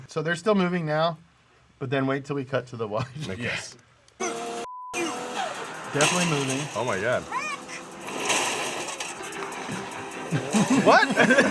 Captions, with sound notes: So they're still moving now. But then wait till we cut to the wide. - (beep) you. - Definitely moving. - Oh my God. - Rick! (cars crashing)